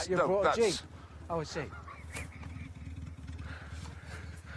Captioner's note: laughs